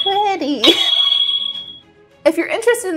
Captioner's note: wand sound